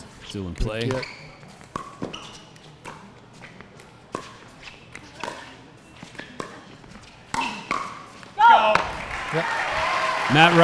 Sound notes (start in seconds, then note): 1.4 ball bouncing; 8.4 audience cheering; 8.8 shouting